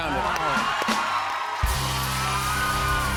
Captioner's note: cheers and applause